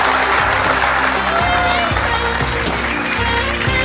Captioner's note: audience cheering; audience clapping; jazz music